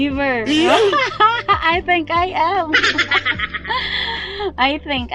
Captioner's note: laughing